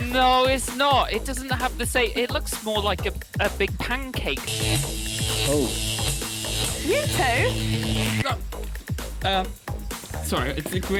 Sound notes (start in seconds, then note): 4.4 electricity buzzing